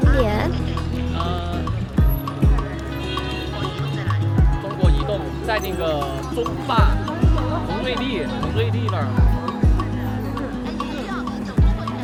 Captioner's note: some Sichuan mandarin